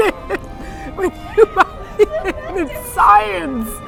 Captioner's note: laughing